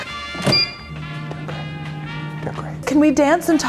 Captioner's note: beep